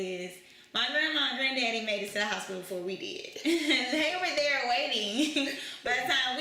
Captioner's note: laughter